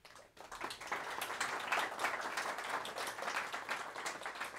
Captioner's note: audience applauds